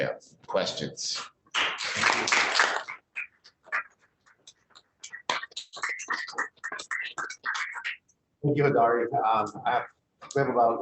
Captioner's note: applause